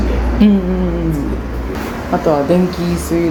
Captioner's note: stressed sounds of understanding